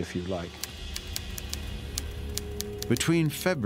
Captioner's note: typewriter clicking